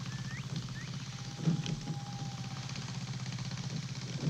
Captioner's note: tractor rumbling